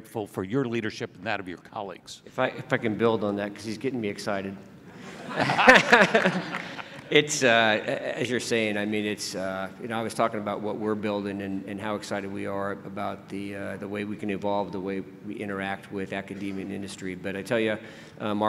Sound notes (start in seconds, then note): 4.9 laughing; 5.8 clapping